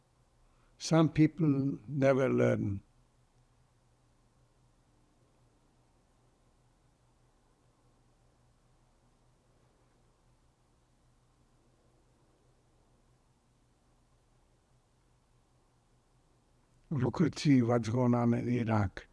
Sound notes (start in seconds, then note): 3.1 pauses 13 seconds